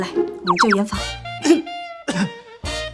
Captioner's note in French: Tousse